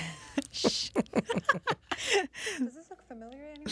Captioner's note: katic laughs